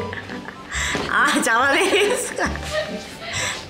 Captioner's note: laughs